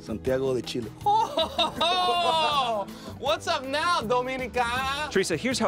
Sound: laughs

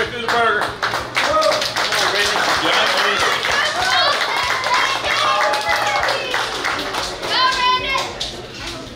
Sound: clapping

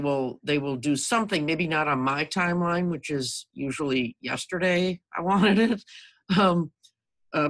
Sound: laughs

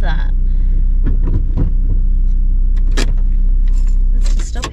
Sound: gear stick clunks, handbrake ratchets, engine noise stops

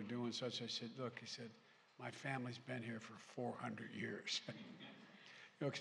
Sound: laughter

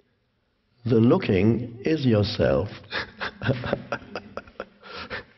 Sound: laughs

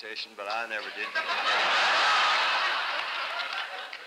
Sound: laughter

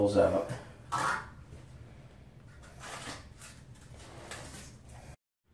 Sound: trowel scrapes concrete

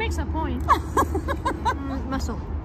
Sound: laughs

